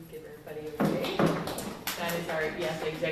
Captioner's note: applause